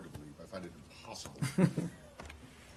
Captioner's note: laughter